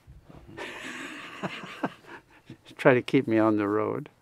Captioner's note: laughs